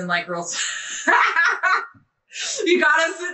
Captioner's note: laughing